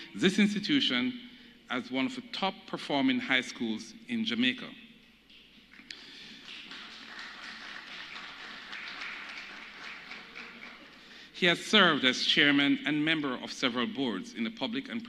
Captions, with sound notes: principal of Jamaica College in 2006 to 2016 and has transformed this institution as one of the top performing high schools in Jamaica. (Applause)